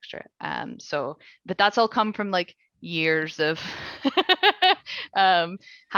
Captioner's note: laughing